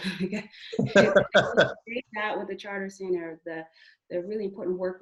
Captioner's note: murmurs